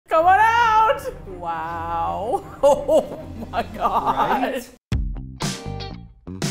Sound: laughs; funky music

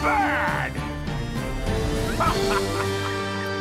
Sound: evil laugh; instrumental music

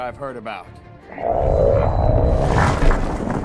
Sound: and also the sound destructions of the city on the background

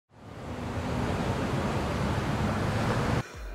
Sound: city Sounds

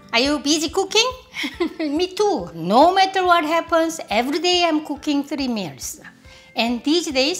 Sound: laughs

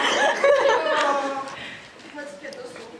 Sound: audience laughter

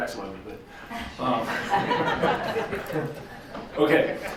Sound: all laughing

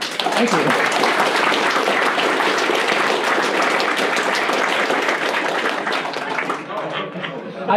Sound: clapping

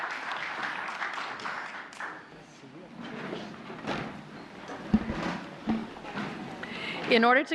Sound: applause

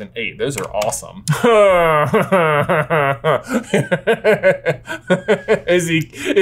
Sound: laughs

